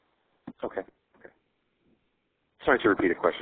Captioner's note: voiceover